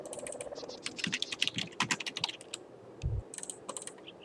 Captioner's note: typing sounds